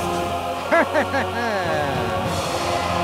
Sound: laughing

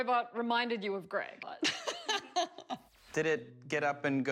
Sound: laughter

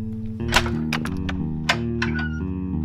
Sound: the crowbar slams into the padlock, breaking it

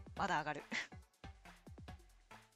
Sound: laughs

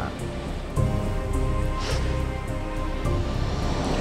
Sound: sniffs

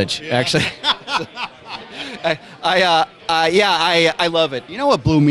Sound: laughter

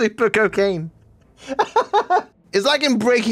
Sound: laughs

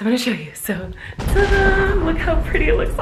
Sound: crackling

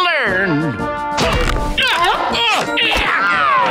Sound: grunting

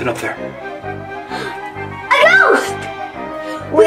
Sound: gasping

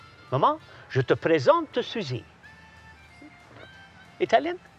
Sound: speaks foreign phrase

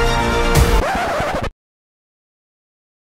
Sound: record scratches

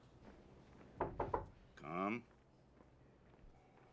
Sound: knock on door

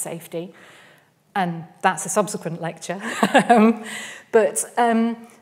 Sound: laughs

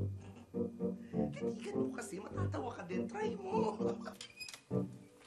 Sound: chuckles; laughs

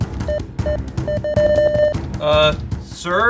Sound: suspenseful music; beeping

